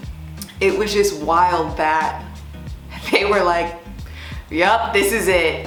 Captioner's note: laughs